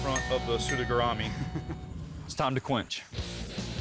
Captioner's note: chuckles